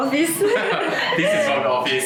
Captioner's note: laughter